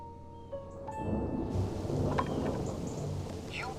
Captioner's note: thunder rumbling